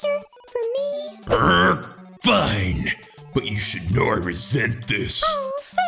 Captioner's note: growls